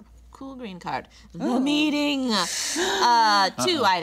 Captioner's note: cast inhaling sharply